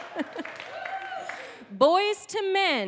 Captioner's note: chuckling